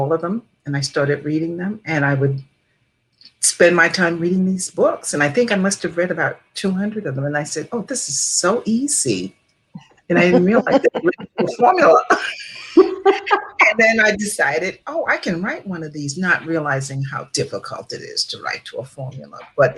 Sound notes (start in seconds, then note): 10.1 laughing; 12.7 all laughing